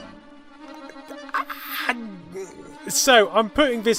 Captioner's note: undefinable sounds of surprise and awe